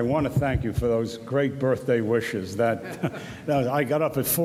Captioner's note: laughs